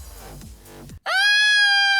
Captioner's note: screams